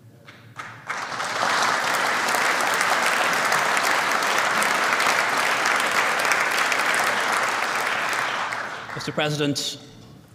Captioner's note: applause